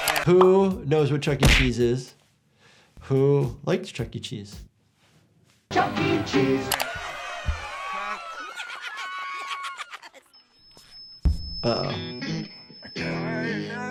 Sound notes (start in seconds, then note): 6.7 laughing; 10.2 microphone feedback squeaks